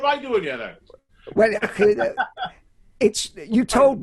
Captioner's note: laughs loudly